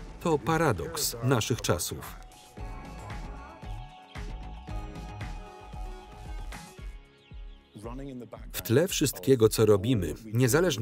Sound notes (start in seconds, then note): 3.9 chicks peep